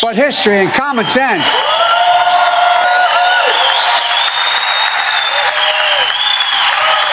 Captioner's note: cheering and applause